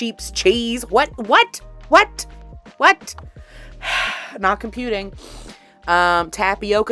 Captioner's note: big sigh